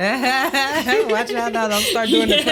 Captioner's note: Kellita and Kimmie laugh